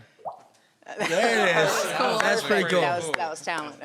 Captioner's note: pops cheek